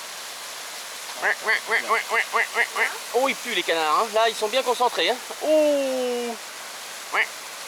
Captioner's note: makes the noise of the duck